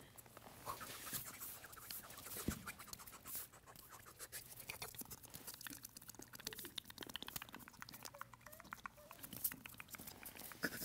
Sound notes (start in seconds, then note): 4.3 lips smacking